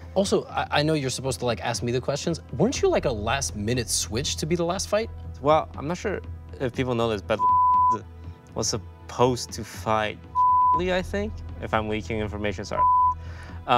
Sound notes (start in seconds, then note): 7.4 beep; 12.8 beep